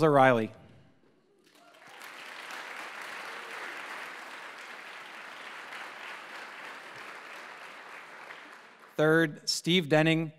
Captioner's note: applause